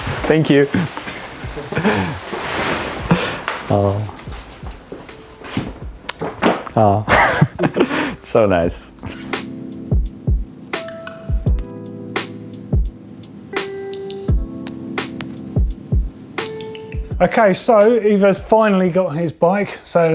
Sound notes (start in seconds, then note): 1.5 laughs; 6.4 laughs; 9.5 relaxing jazz music